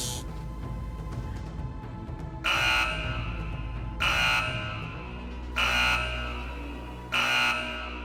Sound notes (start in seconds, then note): 2.4 alarm sounds